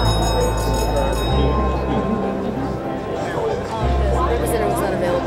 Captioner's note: people chattering